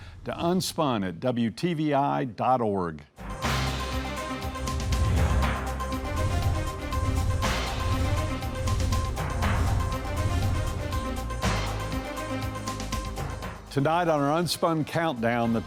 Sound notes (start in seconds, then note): 3.4 bright upbeat music; 6.3 numbers whooshing